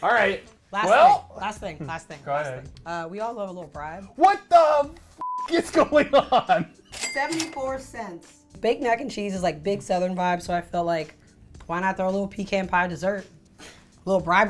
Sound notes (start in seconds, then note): 5.2 beep; 5.9 laughs